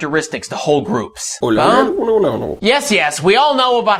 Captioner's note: alien Noises